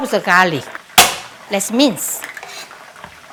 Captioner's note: knife tapping